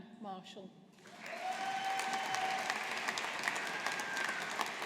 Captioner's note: audience applauding